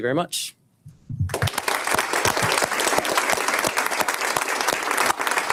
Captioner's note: audience applauds